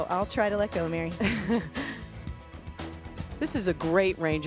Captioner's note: laughs